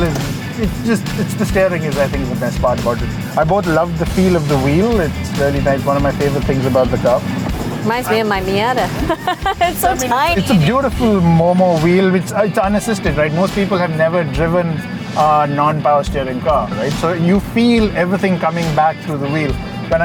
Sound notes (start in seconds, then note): 7.8 laughs